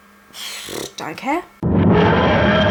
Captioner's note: raspberry